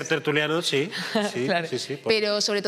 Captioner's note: laughter